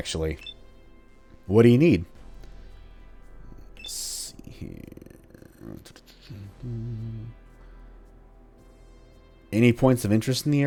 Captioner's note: thinking sounds